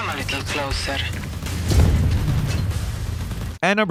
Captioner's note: guns firing